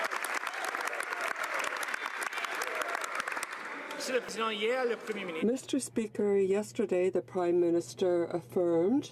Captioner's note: some Applause